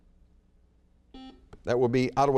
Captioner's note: buzzer beeps